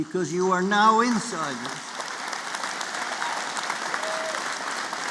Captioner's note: applause